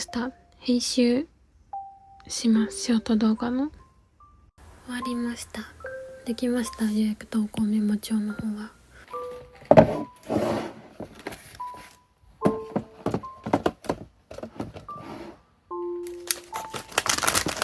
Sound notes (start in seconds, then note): 9.0 sound of moving containers; 16.1 sound of sweets being poured